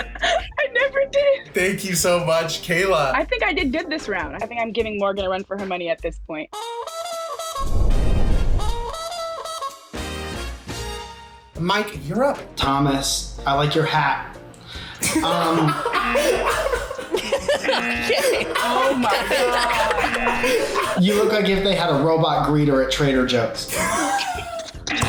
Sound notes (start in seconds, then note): 6.5 upbeat brass interlude; 14.8 buzzer; 15.0 laughs; 17.7 buzzer; 19.6 laughs; 20.1 buzzer; 24.3 laughs; 24.9 buzzer